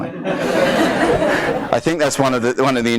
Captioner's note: audience laughs